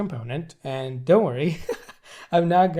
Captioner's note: laughs